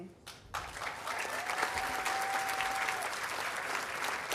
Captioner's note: audience applauding